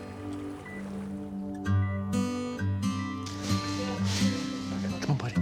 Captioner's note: machine beeping